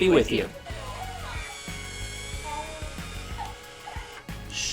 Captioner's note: toy sounds